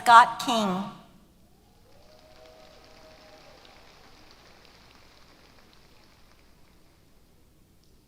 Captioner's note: applause